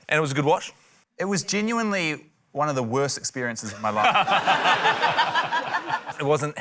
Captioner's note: laughter